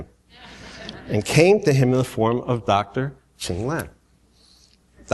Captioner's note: laughter